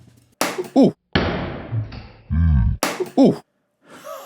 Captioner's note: board explodes and gasps; wheezes, followed by laughter